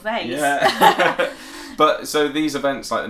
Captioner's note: laugh